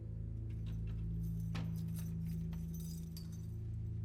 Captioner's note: thumps